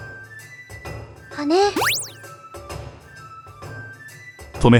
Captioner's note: upward brushstroke